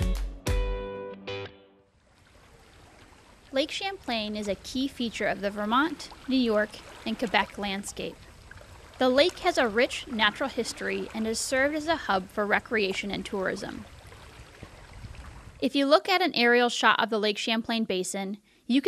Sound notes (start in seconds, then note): 2.5 water rushing